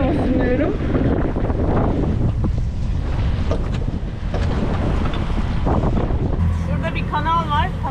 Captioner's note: wind sound